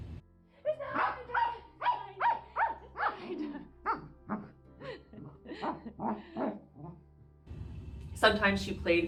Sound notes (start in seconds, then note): 6.2 laughs; 7.1 Maya barking